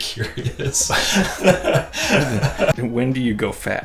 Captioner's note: people laughing